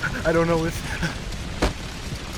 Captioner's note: body falls